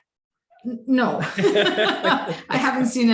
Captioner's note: laughs